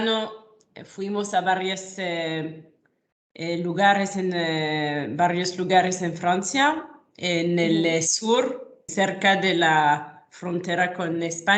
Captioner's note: in Spanish